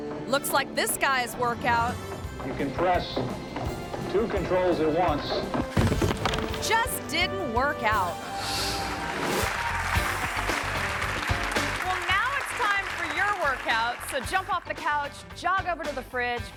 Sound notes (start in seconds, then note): 9.4 audience applauding